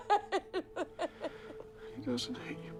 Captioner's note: Bryn crying